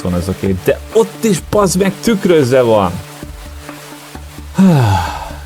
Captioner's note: sigh